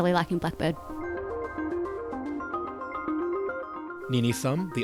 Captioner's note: voiceover